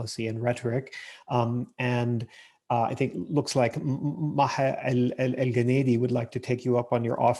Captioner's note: murmurs